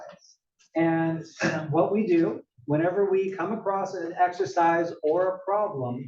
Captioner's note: cough